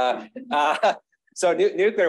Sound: chuckles

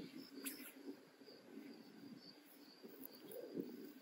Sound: crickets chirping

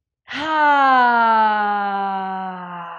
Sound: sighs

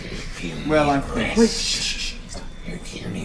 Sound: shushes

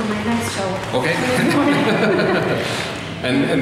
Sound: laughter

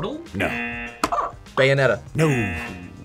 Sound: buzzer barks; buzzer

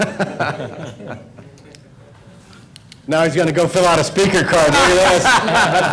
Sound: laughter

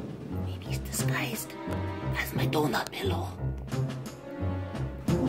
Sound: whispers

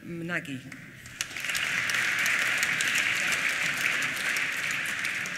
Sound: applause

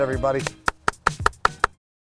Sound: claps

